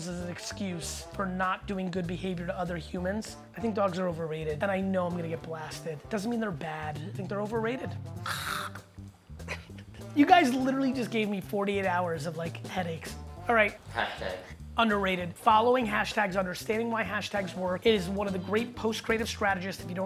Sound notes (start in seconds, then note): 8.2 exasperated groan